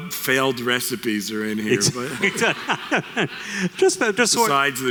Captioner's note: laughter